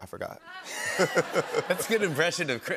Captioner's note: laughter